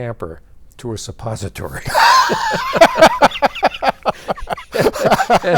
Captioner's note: both laughing